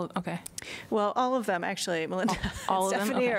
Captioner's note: laughter